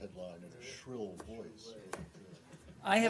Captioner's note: laughter